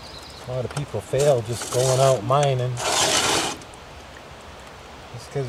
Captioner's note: scraping sound